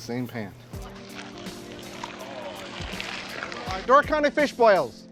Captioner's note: audience oohing